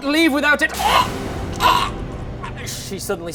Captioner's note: chokes